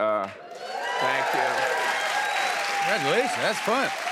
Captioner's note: cheers and applause